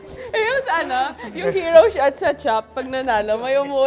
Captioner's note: happily laughs